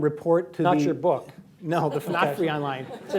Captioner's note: laughter